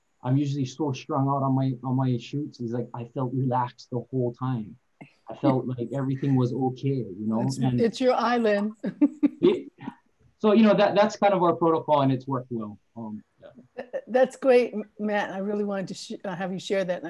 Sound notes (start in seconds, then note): 9.0 chuckles